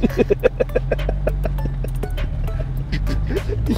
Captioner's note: laughing